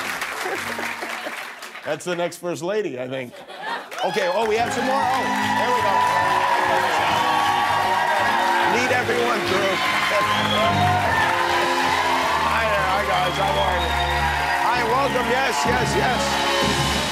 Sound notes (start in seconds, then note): 5.8 cheering